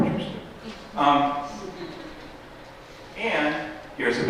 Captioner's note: laughter